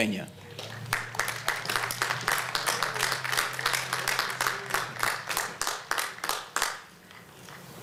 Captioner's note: applause